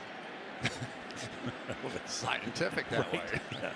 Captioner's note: laughter